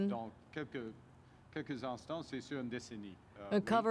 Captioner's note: speaking French